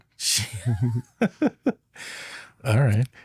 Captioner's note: laughing